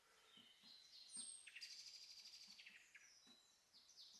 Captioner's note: birds chirping